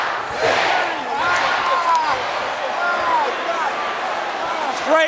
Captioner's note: Ric groaning